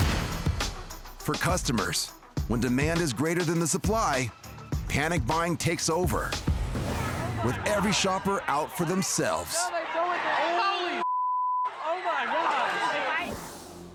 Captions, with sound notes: (dramatic music) >>For customers, when demand is greater than the supply, panic buying takes over with every shopper out for themselves. (people shouting) >>Holy (beep). >>Oh, my God.